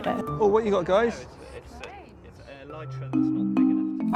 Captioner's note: people chattering; airy music